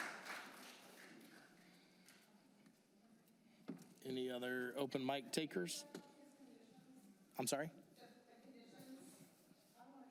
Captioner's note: applause